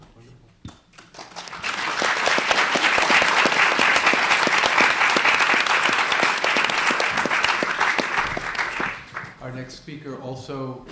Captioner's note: applause